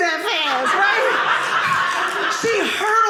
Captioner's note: audience laughing